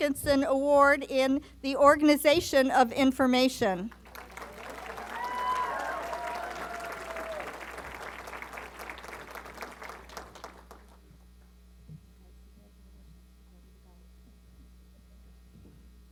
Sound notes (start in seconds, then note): 3.9 applause